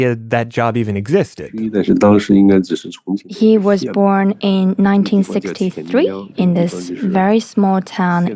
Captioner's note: speaking Mandarin Chinese